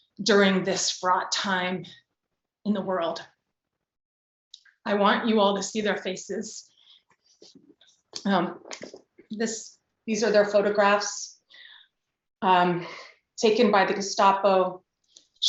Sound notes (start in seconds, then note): none